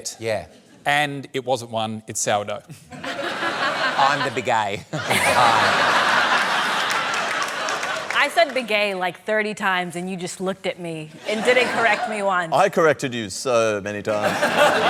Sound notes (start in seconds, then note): 5.0 laughs; 5.9 laughter; 14.1 laughter